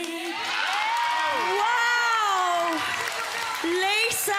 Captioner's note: audience cheering